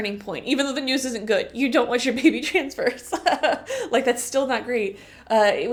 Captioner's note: laughter